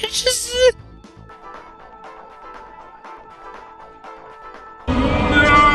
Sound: Pac-Man: Adventures in Time sounds continue in the background

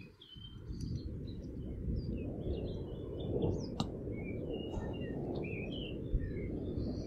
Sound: thunder sounds

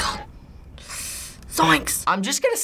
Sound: sucks air through teeth

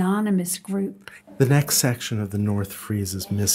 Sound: voiceover

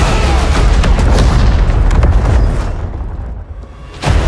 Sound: explosions

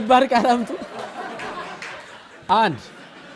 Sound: laughter

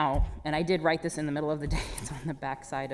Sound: chuckles

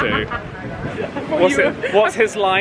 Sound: laughing

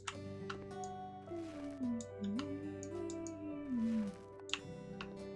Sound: humming in the background

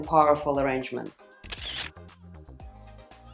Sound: camera shutters; bouncy pop music

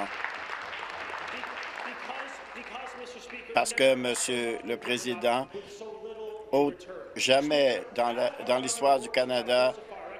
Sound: applause

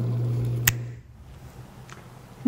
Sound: snap

